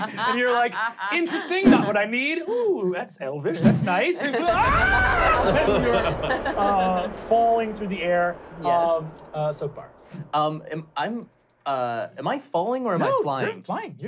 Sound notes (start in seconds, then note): 0.0 laughing; 4.4 screaming